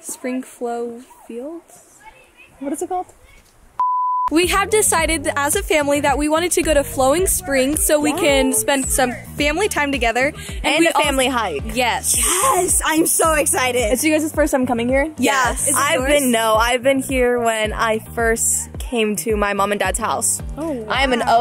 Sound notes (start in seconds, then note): 3.8 beep